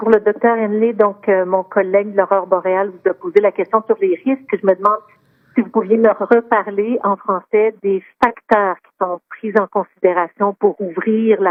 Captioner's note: speaking French